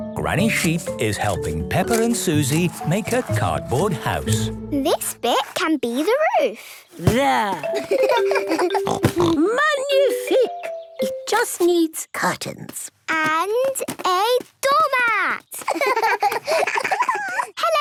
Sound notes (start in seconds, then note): 7.6 giggling and snorting; 15.6 laughter